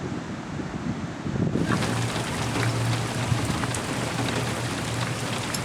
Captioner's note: heavy rain sound